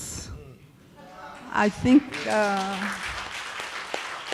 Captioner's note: applause